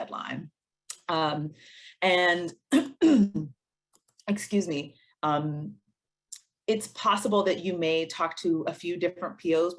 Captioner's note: cough